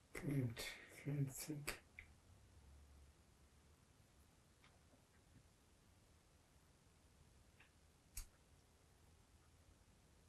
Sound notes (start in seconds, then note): 2.1 pauses 13 seconds